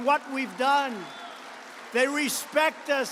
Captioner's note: applause